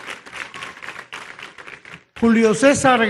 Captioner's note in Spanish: aplausos